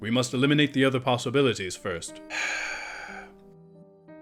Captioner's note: sighs